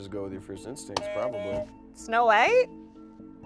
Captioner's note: buzzer buzzes